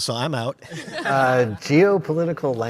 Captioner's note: audience laughs